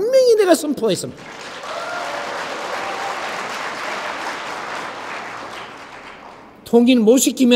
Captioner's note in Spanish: Aplausos